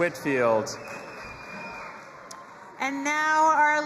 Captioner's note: audience applauding and cheering